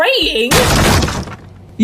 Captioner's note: door gets demolished